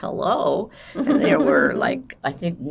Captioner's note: laughing